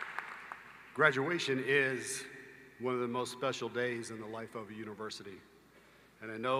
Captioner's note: applause